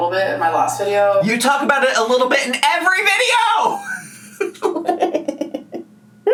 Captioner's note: laughs